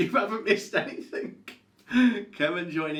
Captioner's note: chuckles